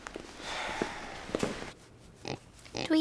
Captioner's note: sighs